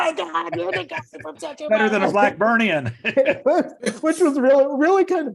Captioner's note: laughs